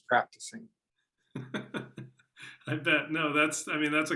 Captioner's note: laughs